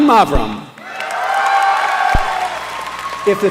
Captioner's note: applause